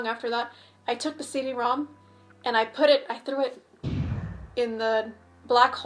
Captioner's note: air whoosh sound effect